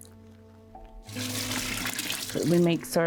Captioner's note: water pouring